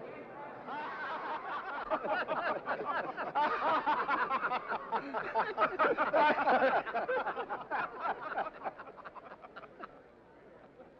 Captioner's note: men laughing